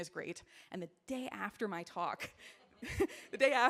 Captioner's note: chuckles